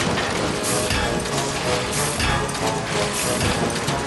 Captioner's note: clang clang clang